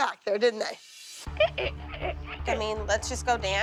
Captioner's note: squeaking